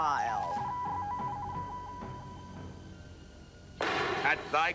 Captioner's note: beeping